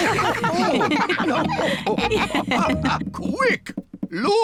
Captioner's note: all laugh